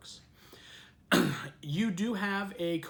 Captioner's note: coughs